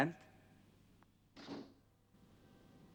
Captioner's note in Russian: хлопает дверь